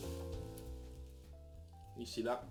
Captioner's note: none